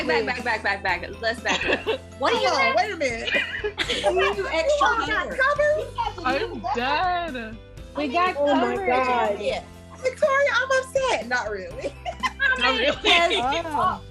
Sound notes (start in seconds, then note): 3.1 laughter; 11.8 laughs